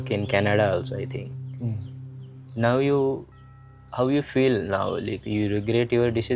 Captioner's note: नाक से की जाने वाली आवाज़